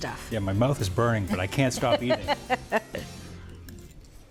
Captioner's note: laughing; upbeat music fades